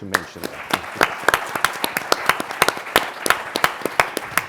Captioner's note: applause